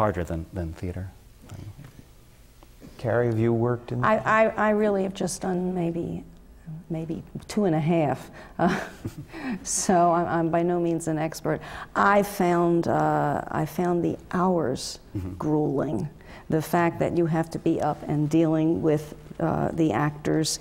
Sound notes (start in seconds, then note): 9.9 laugh